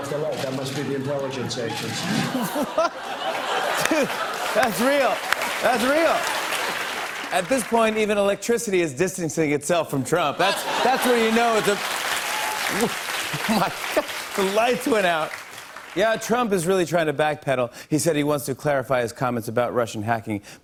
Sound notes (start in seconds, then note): 1.9 laughter and applause; 12.0 laughter and applause